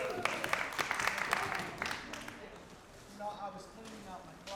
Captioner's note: applause